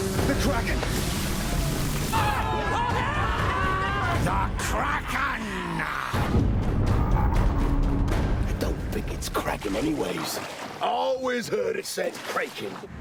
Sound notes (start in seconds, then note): 1.3 men shouting